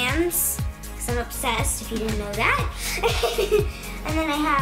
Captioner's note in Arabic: الضحك